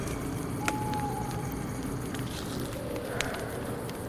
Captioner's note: owl hooting